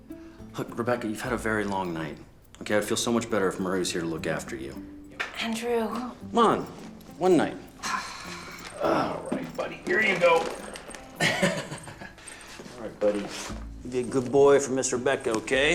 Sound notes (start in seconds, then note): 11.0 chuckles